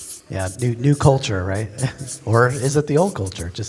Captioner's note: pat